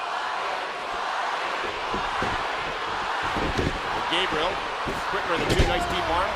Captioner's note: crowd cheering